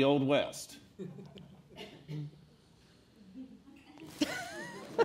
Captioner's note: silence from author; laughter